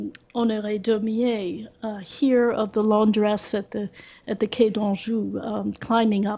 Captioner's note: french